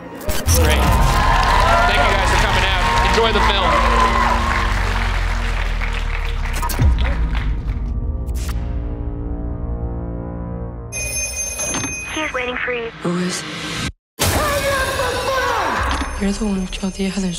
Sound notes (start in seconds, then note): 0.3 audience cheers; 6.8 ominous music; 10.9 phone rings; 11.8 voice Over Phone; 14.3 screams